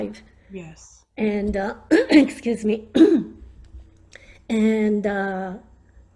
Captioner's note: clears throat